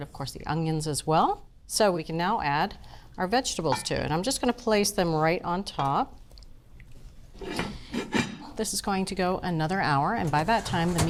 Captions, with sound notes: Of course, the onions as well. So we can now add our vegetables to it, and I'm just gonna place them right on top. (lid clanging) This is going to go another hour, and by that time,